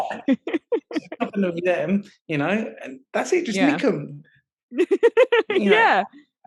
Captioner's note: laughing; laughing